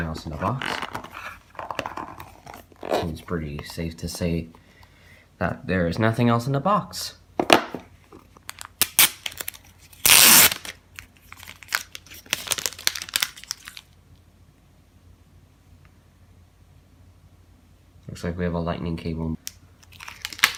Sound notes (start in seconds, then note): 9.1 unwrapping